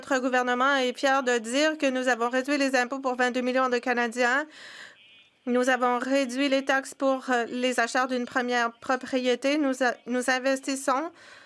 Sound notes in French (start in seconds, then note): 5.1 voix de l'interprète